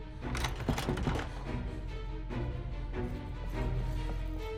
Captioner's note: locks rattle; door rattles